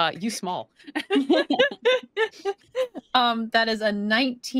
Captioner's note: everyone laughs